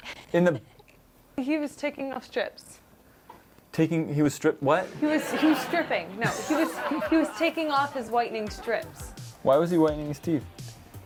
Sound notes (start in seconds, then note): 5.1 sarcastic